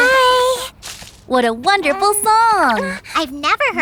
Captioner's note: both chuckle; gasps